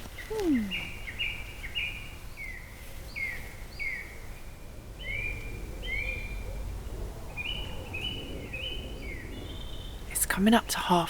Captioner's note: evening birds